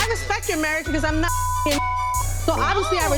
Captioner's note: beep